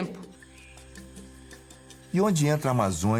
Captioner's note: rainforest sounds